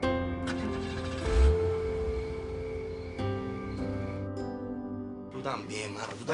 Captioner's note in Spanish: Sonido del carro